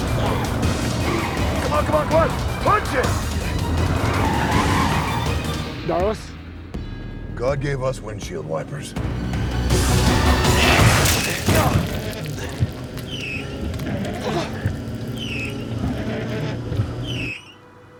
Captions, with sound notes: Come on, come on, come on, punch it! (tires screeching) - Darlus. - God gave us windshield wipers. (intense music) (windshield wipers squeaking) (Walter gasps)